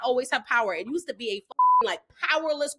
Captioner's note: beep